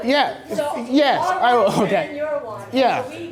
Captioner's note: voiceover; voiceover